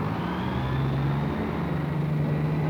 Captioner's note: bus accelerates